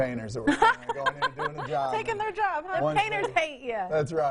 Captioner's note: chuckles